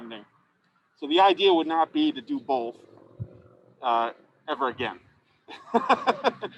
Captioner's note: laughs